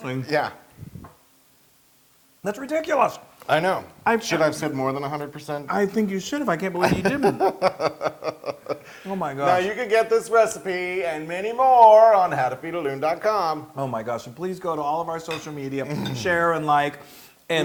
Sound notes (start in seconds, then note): 6.8 laugh